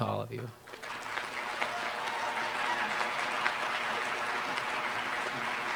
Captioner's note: applause